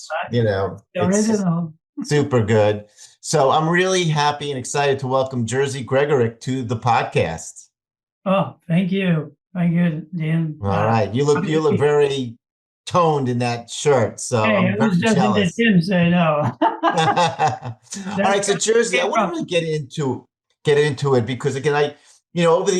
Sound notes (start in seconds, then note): 16.4 laughing